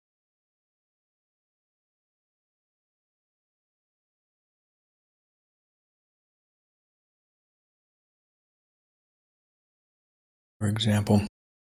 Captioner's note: blank Audio